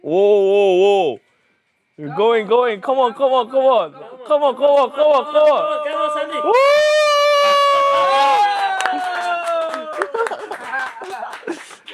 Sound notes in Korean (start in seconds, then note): 9.4 환호